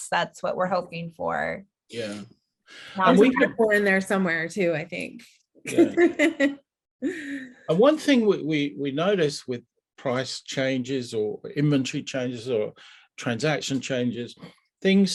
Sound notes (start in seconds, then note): 5.6 laughing